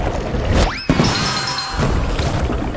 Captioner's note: bell dings